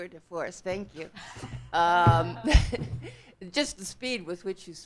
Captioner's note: audience laughing